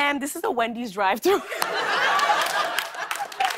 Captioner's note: laughter; applause